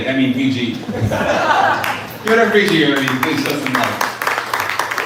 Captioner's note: laughter